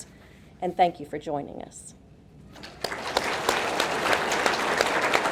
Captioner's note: audience clapping